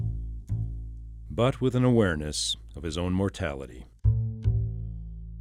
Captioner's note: voiceover